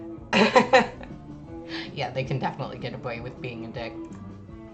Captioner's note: laughs